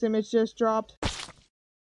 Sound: splat

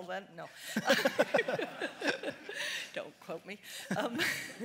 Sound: audience laughs

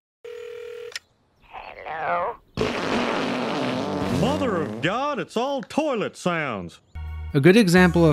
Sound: fart

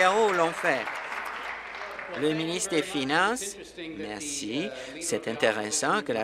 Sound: applause

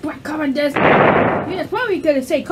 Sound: explosion

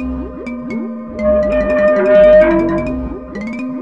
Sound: door creaking

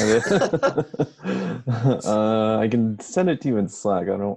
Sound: laughing

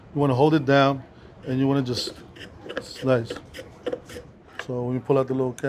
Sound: shaver scraping

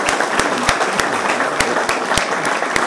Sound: applause

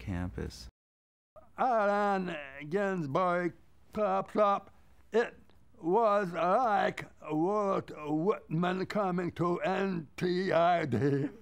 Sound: laughs

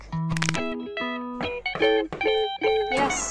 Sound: knock

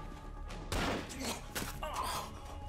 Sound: gun firing; grunting

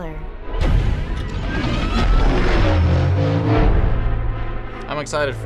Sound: in video: engine revs

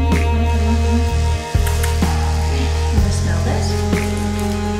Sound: buzz; kissing sounds

